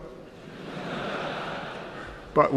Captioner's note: laughter